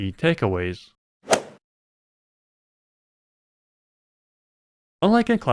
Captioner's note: golf ball hit sound